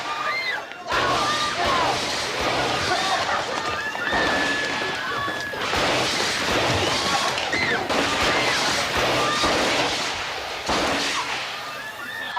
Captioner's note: shouting and shooting